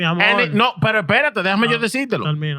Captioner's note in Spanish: Hablando en idioma extranjero